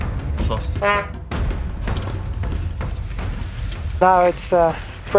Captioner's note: horn beeps